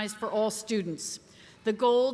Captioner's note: none